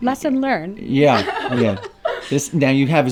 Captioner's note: laughs